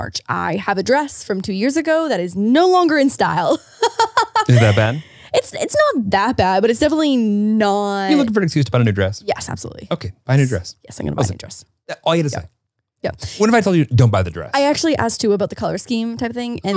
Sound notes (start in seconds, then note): 3.4 laughs